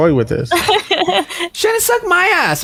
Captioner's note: laughs